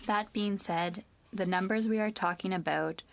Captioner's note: speaking French